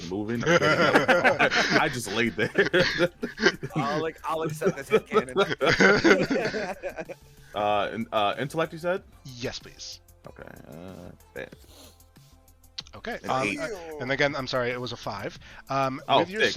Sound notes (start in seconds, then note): 3.1 laughter; 4.2 laughter continues